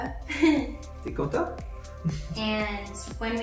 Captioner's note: woman laughs; speaking in a foreign language